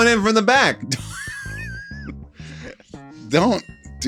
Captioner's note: laughs